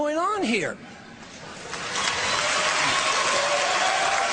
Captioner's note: cheers and applause